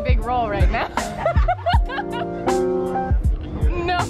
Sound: laughter

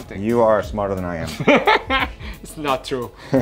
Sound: laughing

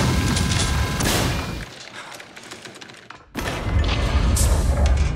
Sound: guns firing; keyboards clicking

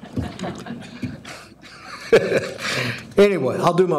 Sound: audience chuckling

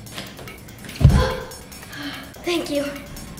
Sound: clap; sigh of relief

